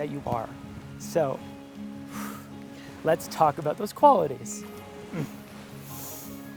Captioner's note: exhale